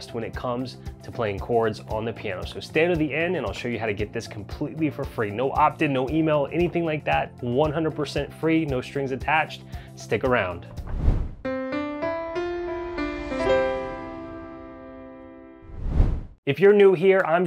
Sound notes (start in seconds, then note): 10.8 air whooshing; 11.4 piano music; 15.6 air whooshing